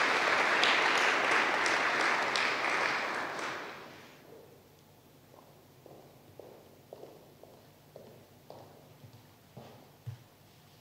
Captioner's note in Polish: oklaski